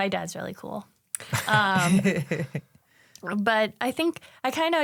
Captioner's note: laughs